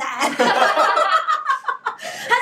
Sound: laughing

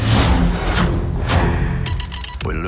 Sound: dramatic music; telegraph tapping

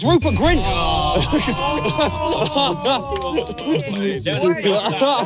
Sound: groaning

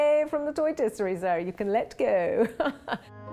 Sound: laughs

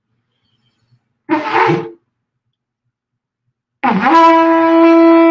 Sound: horn trumpeting

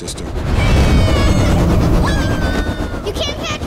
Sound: screaming

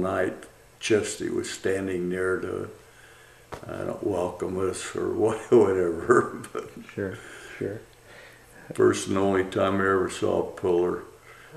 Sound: laughs

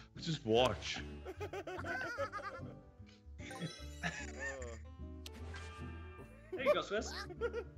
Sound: laugh; laugh

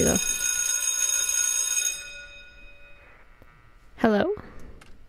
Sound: school bell ringing

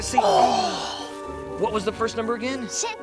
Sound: both gasping

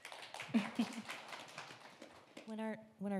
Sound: audience applauding

